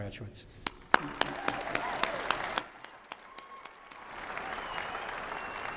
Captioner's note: applause